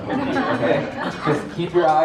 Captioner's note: audience laughs; speaks faintly